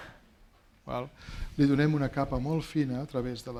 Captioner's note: speaking spanish